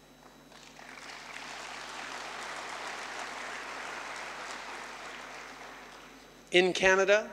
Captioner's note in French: Applaudissements